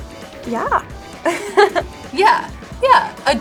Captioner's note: laughs